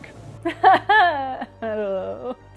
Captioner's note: laughs uncomfortably